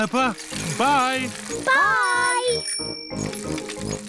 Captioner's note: bell rings